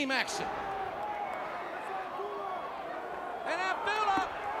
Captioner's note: crowd chatter